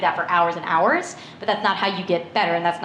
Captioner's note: none